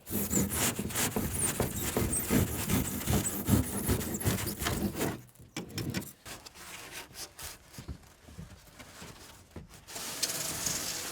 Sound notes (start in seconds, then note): none